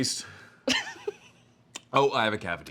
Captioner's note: laughs